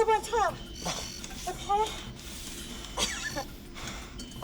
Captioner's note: coughing